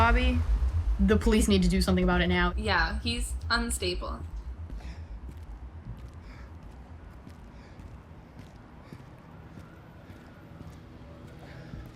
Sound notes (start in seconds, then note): 6.8 heavy breathing